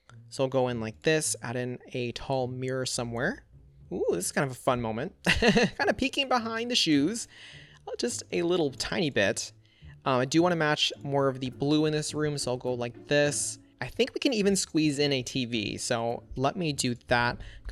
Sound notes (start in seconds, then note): 5.3 laughs